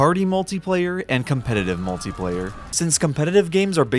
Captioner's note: crowd screaming